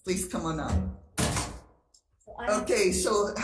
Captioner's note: door slams